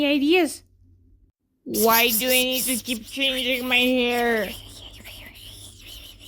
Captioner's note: the other two whisperispering